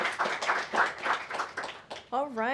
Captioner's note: applause